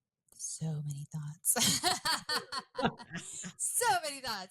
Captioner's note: laughs